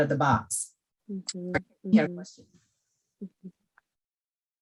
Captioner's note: audio glitching